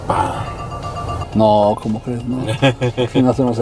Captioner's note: alarm beeping